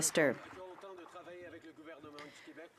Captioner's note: some Applause